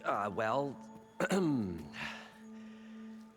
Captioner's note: clears throat